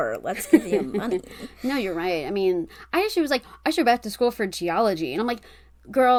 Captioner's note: laughs